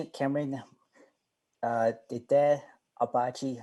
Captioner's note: speaking in Apache